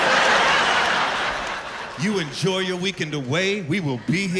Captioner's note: laughter